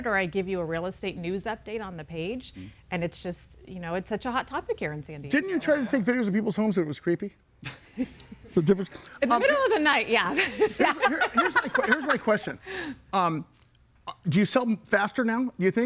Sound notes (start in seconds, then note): 8.9 laughs; 10.4 everybody laughing